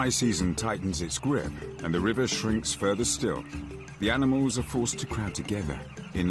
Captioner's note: birds flocking; upbeat music